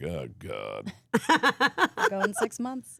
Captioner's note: laughs